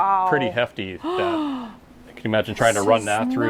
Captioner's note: gasps